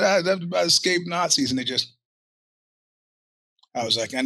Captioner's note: silence